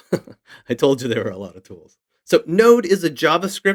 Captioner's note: chuckles